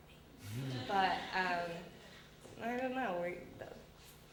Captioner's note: audience laughter